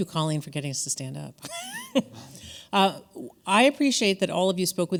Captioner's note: laughing